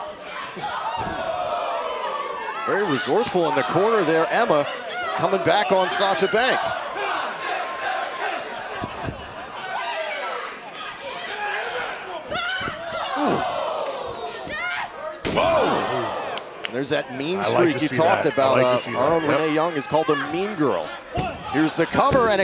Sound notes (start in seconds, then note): 9.9 crowd cheering; 20.1 crowd cheering